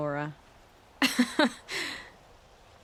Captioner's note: laughs